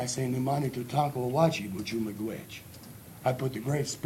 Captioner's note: speaking native language